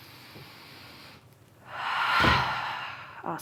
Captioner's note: inhales and exhales; thud